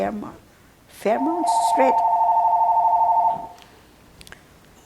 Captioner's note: phone ringing